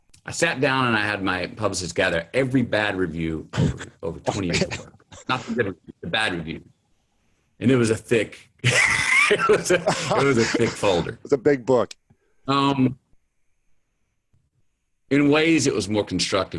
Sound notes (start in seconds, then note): 3.6 Lewis laughing; 8.6 Lewis laughs